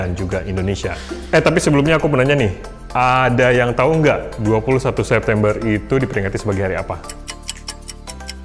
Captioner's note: clock ticking